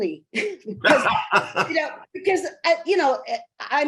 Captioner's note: laughing